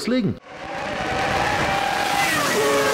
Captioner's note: engine sounds